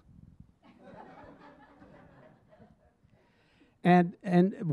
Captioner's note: audience laughing